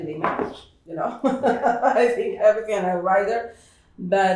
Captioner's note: laughs